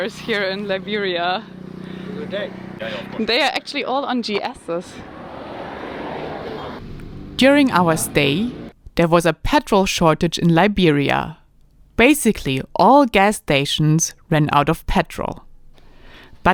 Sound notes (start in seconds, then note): 1.3 motorcycle engine roaring; 2.1 faintly speaking